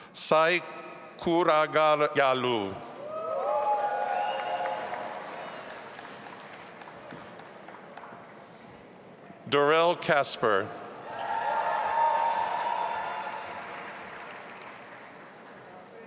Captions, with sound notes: Sai Kuragayalu. (audience applauding) Doral Kasper. (audience applauding and cheering)